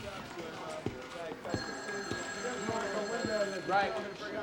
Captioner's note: phone ringing